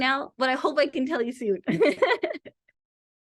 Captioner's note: laughs